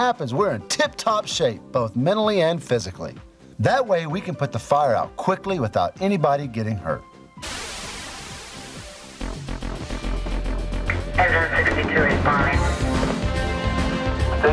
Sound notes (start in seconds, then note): 7.4 wind whooshing; 9.3 upbeat music; 14.3 radio chatter